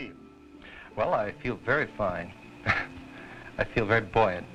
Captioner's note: laughs